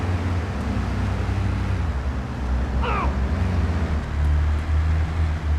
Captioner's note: car engine roaring; grunting; speaking in foreign language